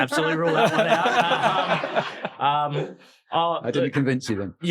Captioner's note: audience laughing